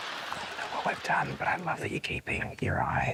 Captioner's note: whispers